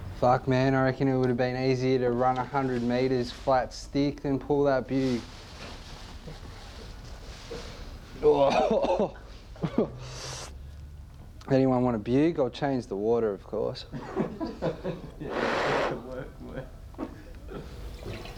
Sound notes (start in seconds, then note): 8.2 coughing; 13.8 laughter behind camera